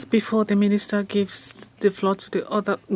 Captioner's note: speaking French